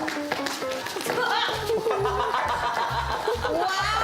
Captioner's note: footsteps approaching; laughter